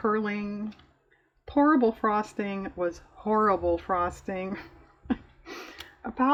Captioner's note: laughs